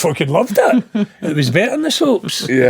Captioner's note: laughing